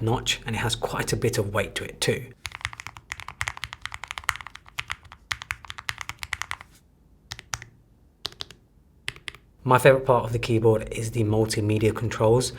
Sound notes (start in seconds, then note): 2.4 keyboard clicking